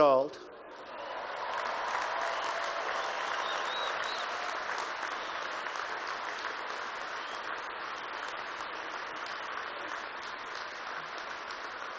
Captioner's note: applause